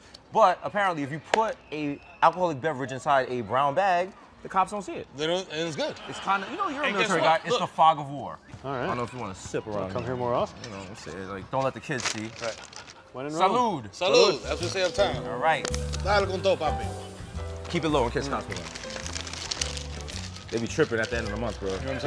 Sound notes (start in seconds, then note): 16.1 speaking spanish